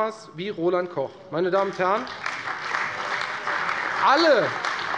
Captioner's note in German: Beifall bei der CDU und bei Abgeordneten der FDP